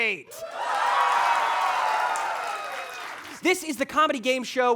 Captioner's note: audience applauding